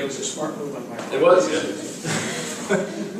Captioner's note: laugh